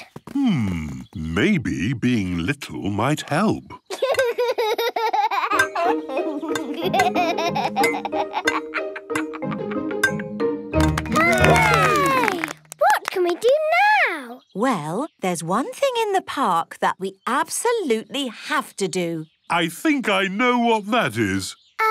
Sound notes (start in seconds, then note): 3.8 laughs; 10.9 all cheer